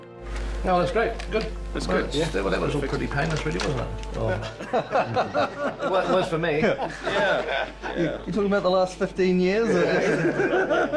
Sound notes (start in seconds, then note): 4.4 all chuckling